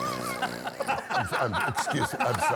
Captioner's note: snoring; laughter